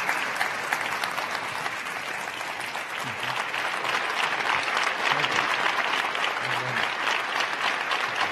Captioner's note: crowd applauding